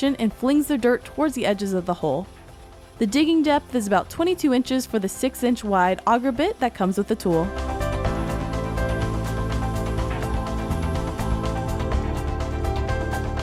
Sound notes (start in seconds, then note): 7.6 digger whirring; 7.6 upbeat music continues